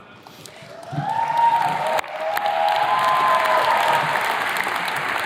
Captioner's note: attendees cheers and claps